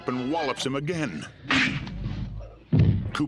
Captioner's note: smack